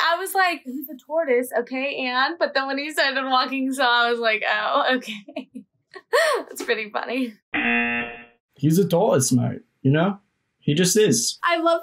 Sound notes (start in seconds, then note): 6.4 laughs; 7.5 buzzer rings